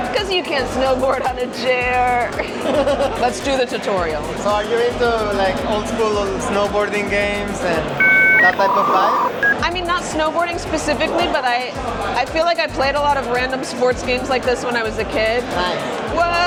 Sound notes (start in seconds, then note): 2.5 host laughs; 7.8 dial-up noise